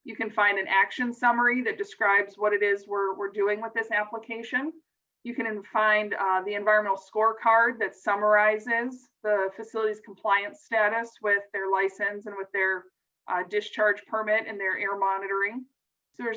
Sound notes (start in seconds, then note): none